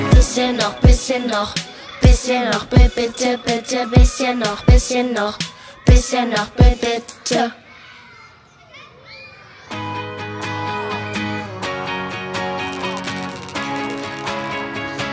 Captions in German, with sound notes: Bisschen noch. Bisschen noch. Bisschen noch. Bitte, bitte, bisschen noch. Bisschen noch. Bisschen noch. Bisschen noch. Bitte! [ Kinderlachen ]